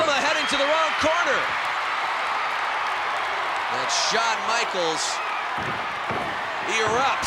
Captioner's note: applause